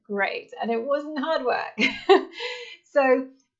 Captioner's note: laughs